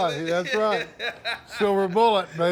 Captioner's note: laughs